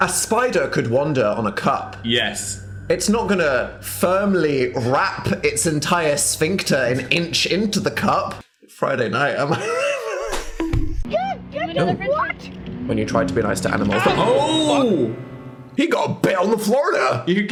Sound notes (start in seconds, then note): 10.6 bonk; 11.5 people yelling